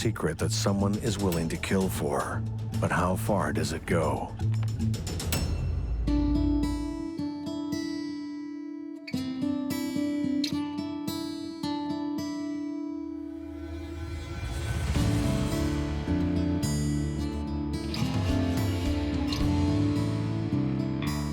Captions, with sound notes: that someone is willing to kill for, but how far does it go? (thunderous explosion) (light guitar music)